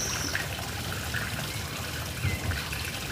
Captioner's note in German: Plätschern des Springbrunnens